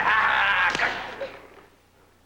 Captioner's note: slap